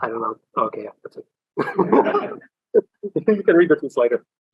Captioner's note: laughter